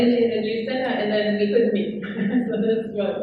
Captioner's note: laughs